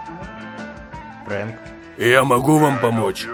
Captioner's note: whispers